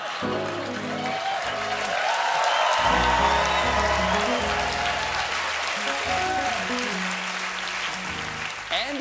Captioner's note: cheers and applause; piano riff